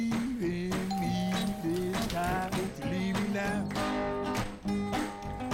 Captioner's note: doorbell